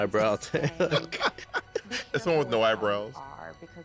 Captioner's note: laughter